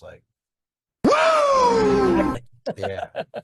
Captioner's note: virtual attendee cheering